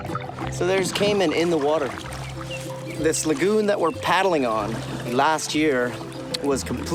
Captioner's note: speaking In Foreign Language